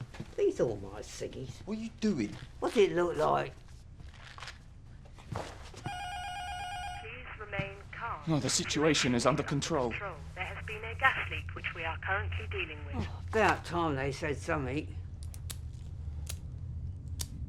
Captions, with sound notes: ARE THESE ALL MY CIGGIES? WHAT YOU DOING? WHAT'S IT LOOK LIKE? [INTERCOM BUZZER RINGING] [INTERCOM:] PLEASE REMAIN CALM OH, 'THE SITUATION IS UNDER CONTROL' [INTERCOM VOICE]: THERE HAS BEEN A GAS LEAK, WHICH WE ARE CURRENTLY DEALING WITH. ABOUT TIME THEY SAID SOMETHING.